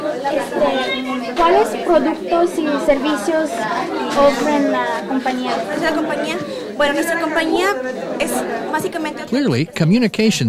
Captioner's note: conversation in Spanish